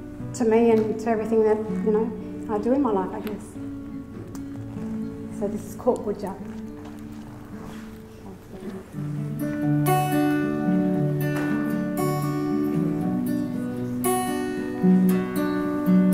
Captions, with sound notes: to me and to everything that I do in my life, I guess. So this is "Koort Boodja". (faintly speaking) (gentle guitar music)